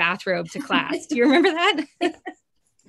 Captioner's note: chuckles